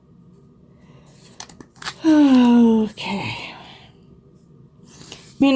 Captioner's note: deep sigh